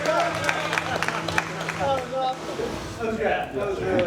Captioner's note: cheers and applause